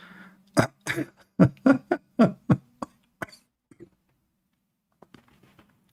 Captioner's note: Ketawa